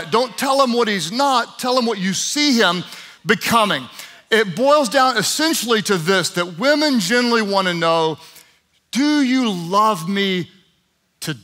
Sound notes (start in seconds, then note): none